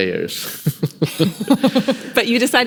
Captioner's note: laughing